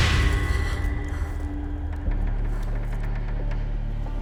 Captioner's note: breathing shakily; wood creaking